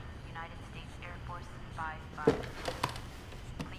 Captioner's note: radio Announcer